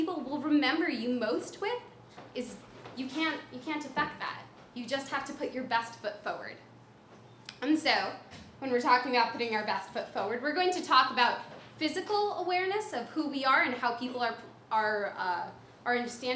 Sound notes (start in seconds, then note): none